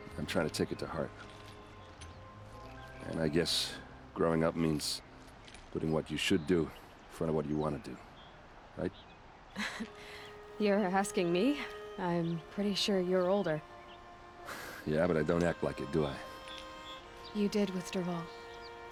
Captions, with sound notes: ...I'm trying to take it to heart... ...and I guess... ...growing up means... ...putting what you SHOULD do... ...in front of what you want to do... ...right? (laughs) You're asking me? I'm... ...pretty sure you're older. (laugh) Yeah, but I don't act like it, do I? You did with Dervahl.